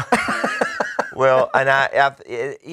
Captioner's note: laughing